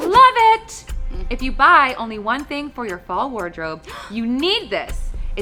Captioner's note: gasps